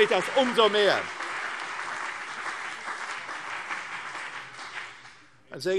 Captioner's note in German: Beifall CDU und BÜNDNIS 90/DIE GRÜNEN